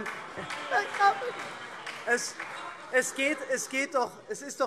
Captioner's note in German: Beifall SPD - Lachen AfD